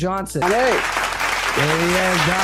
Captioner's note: applause